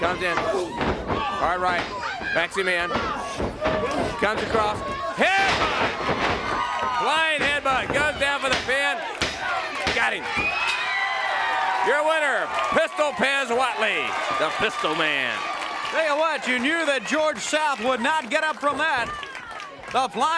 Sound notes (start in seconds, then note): 12.0 crowd cheering